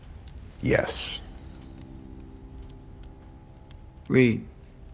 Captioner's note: fire crackling